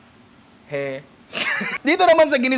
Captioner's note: laughs